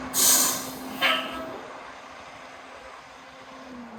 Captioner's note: brakes hissing